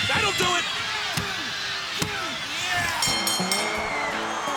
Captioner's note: crowd cheering; bell dinging; hand smacking; upbeat honky tonk music